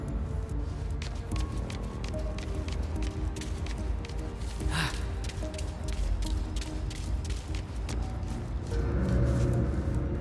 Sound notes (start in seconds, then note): 0.0 suspenseful music; 4.6 sighing; 7.8 suspenseful music